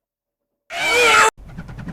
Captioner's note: everyone is very loud when screaming at the top of their lungs